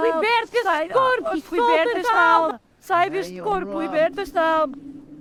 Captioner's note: Carlota screaming